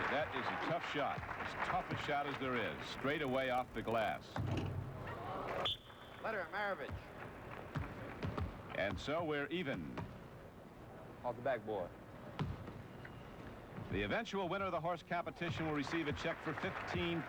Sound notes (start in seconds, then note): 0.0 applause; 5.6 whistle blows